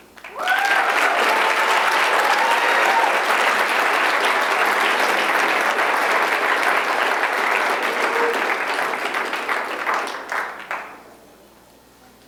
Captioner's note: applause